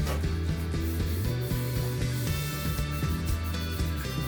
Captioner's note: sprayer hissing